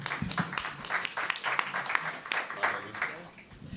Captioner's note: clapping